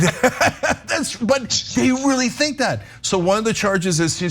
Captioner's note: laugh